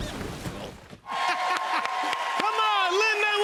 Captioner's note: cheers and applause